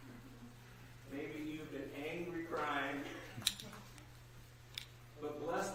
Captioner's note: laughter